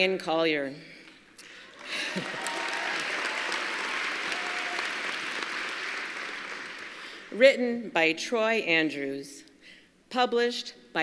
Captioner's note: applause; applause